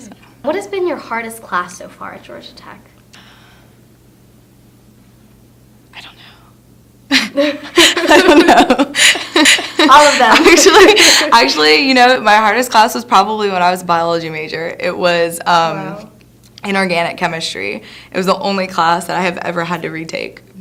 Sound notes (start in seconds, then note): 6.2 whispers; 7.1 both laughing